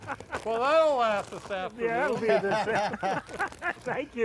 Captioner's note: laughter